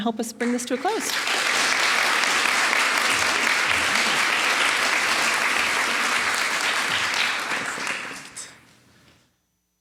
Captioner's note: applause